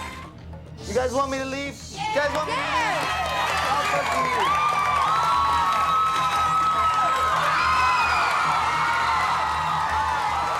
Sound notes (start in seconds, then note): 5.3 cheering